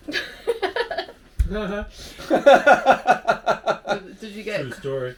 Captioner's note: laughing